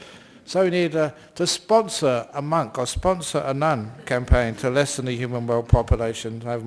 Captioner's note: laughs